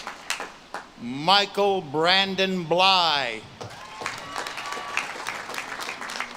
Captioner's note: audience claps and cheers